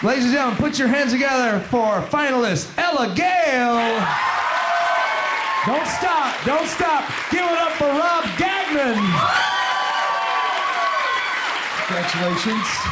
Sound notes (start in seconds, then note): 0.0 applause fades in; 4.7 crowd applauds; 9.9 crowd applauds